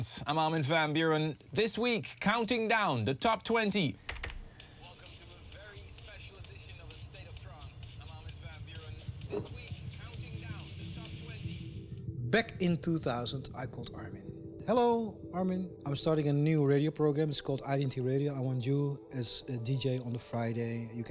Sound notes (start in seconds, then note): 4.0 clicking keys; 9.4 glass rattling